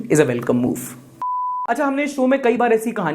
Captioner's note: beep